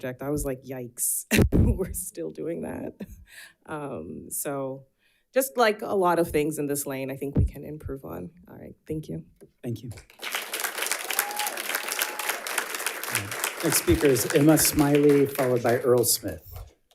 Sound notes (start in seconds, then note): 10.0 audience applauds